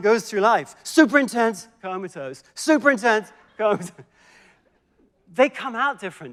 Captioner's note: laughs